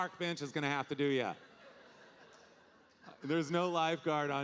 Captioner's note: audience laughing